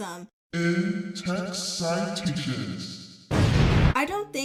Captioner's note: booming voice, echo; explosion sound